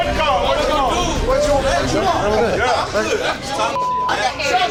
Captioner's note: chatter